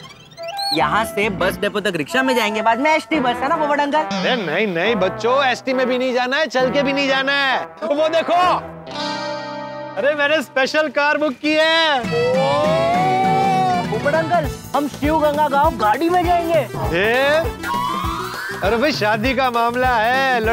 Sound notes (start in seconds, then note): 12.0 cheering